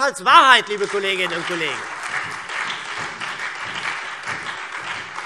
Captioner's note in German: Beifall Freie Demokraten und SPD